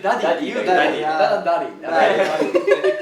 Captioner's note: native sounding